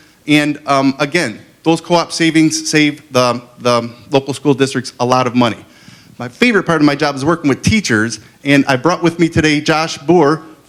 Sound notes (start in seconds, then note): none